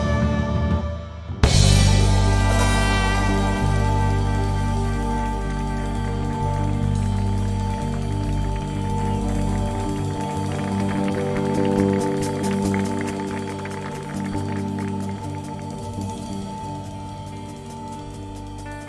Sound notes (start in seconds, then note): 5.4 audience clapping